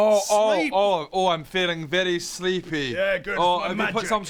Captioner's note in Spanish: tono monótono